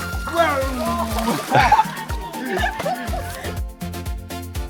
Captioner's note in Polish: laughs